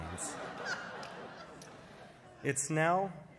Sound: applause

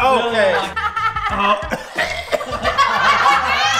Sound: all laughing

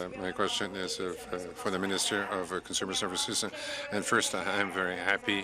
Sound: speaking in french

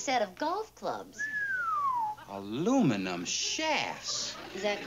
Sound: whistles

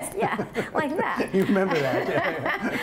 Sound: laughter

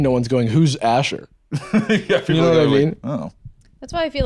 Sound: laughs

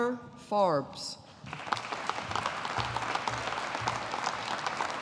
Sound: audience applauding

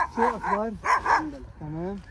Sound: Arabic

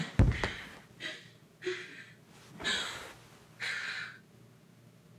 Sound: Jenelle breathing heavily; body thumps

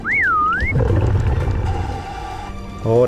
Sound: exhale; inhale

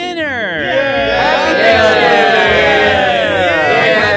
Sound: cheering

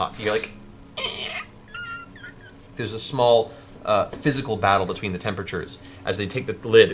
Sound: creaking

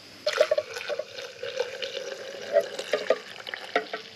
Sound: water trickling

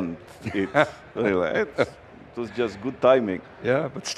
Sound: laughs

